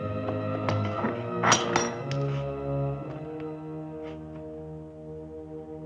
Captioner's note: metal latch clanks